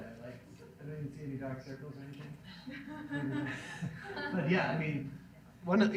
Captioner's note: audience laughs